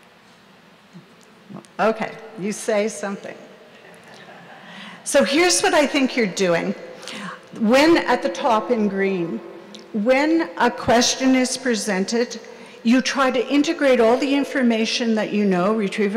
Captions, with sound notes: Okay, you say something. (audience laughs) So here's what I think you're doing. When at the top in green, when a question is presented, you try to integrate all the information that you know,